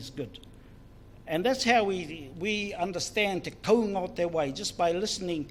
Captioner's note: foreign Language